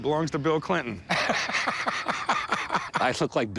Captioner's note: laughs